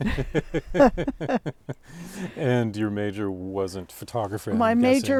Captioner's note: laughter